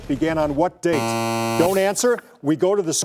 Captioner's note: buzzer